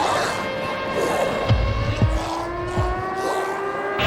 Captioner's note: snarling; screams